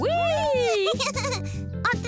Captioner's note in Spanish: risas